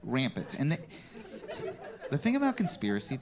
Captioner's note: scattered laughter